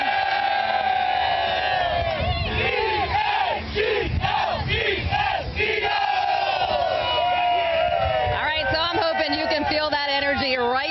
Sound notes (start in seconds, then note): 6.9 cheers and applause